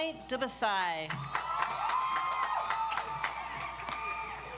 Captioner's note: audience applauds